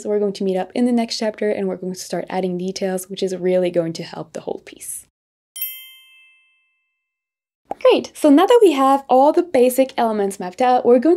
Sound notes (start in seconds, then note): 5.5 gentle chime jingling